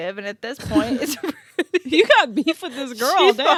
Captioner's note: laughing